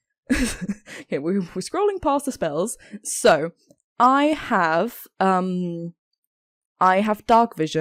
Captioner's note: both laugh